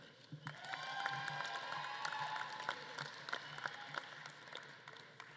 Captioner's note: audience claps and cheers